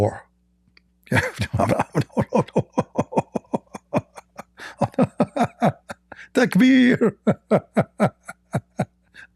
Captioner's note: Ketawa